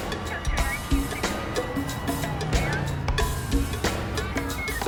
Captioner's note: siren